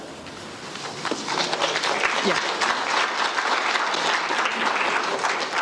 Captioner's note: audience applauding